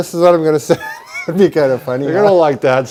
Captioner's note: laughs